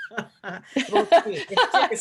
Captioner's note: laughing